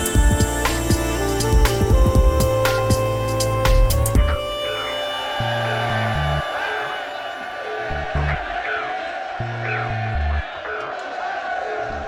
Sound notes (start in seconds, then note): none